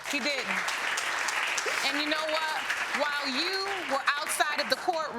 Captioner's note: audience applauding